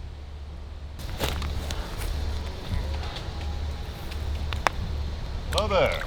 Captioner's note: leaves crunching